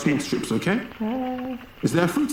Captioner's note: Judy moaning